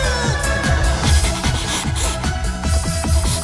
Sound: sniffing

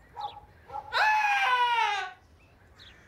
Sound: Tommy Screams

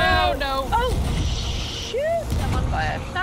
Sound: laugh

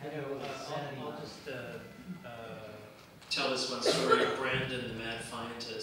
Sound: murmurs

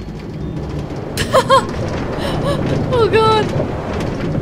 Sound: laughing

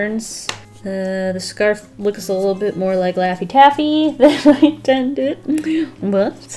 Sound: laughs

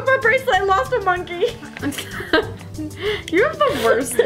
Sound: chuckles

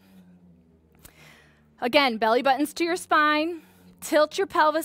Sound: inhale sound

